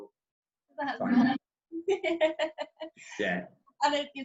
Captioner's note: laughing loudly